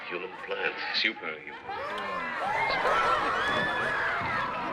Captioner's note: loud chatter